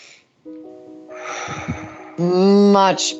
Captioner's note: breathing deeply